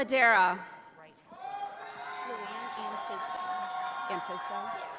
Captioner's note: audience applauding